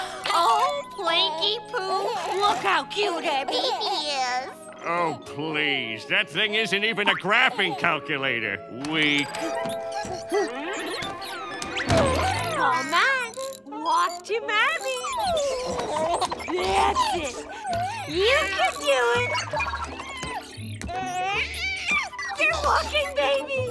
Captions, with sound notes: Oh Planky-poo, look how cute our baby is! Oh, please. That thing isn't even a graphing calculator. Weak. Come on, walk to mommy! That's it! You can do it! [cooing] You're walking baby!